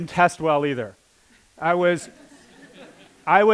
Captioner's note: slight laughter